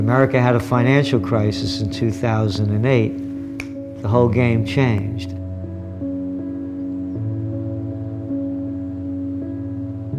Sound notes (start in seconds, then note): 3.5 snaps fingers